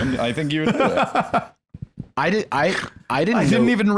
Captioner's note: laughs